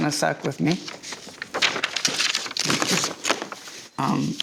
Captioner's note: paper rustling